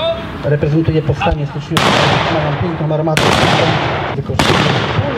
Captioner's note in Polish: Trwa walka, słychać strzały